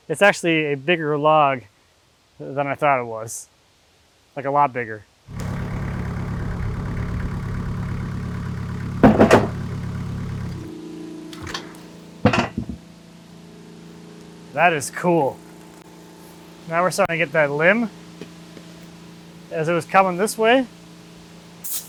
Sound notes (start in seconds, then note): 5.3 engine revving; 12.3 metals clanking